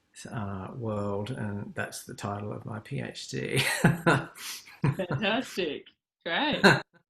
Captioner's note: laughs